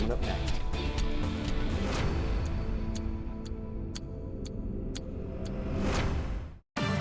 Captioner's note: timer ticking continues; dramatic music continues; upbeat music